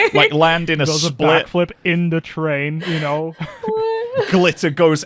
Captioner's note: laughs; laughs